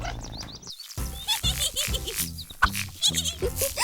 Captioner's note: crooning sounds; laughs